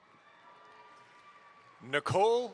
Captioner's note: audience applauds